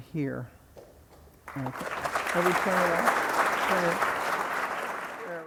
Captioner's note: audience applauding